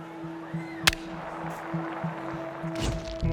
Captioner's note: hits ball, crowd applauds